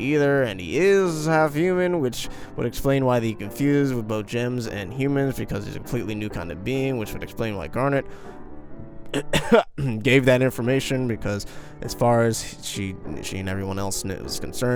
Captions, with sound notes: and he is half human which would explain why he can fuse with both gems and humans because he's a completely new kind of being which would explain why garnet *coughs* gave that information because as far as she and everyone else was concerned